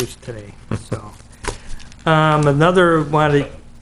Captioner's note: chuckles